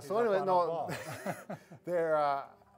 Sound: laughter

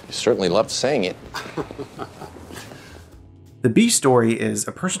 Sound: laughs

